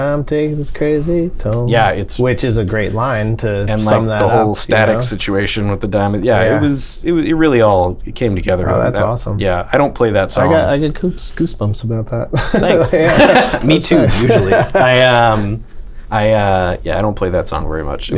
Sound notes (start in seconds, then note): 12.3 laughter